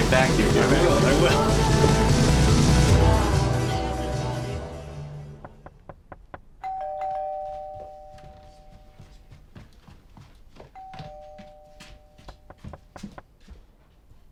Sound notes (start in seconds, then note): 3.6 doorbell ringing; 5.4 knocking on door